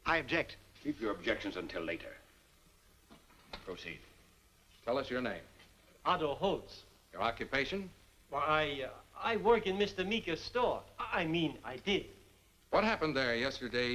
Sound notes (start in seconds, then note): none